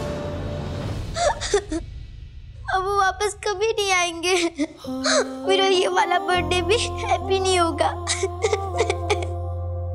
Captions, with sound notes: [sobbing] He'll never come back now. This birthday, too, won't be a happy one. [sobbing]